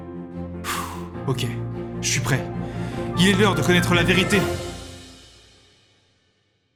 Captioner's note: sigh